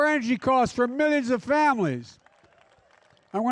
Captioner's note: applause